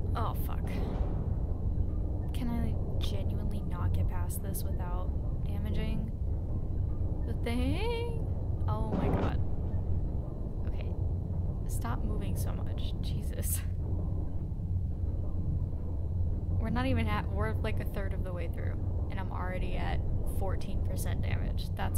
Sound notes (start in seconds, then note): 7.6 banging sounds of sub damage